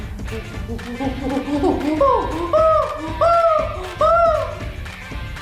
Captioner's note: imitates chimpanzee